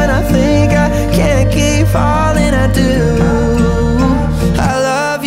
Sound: ooooooooohhhhhhhhhh

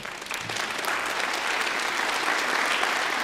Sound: applause

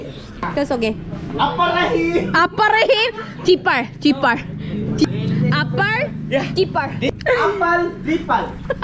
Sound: laughing

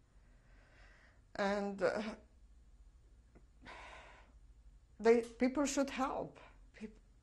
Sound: pauses for 3 seconds

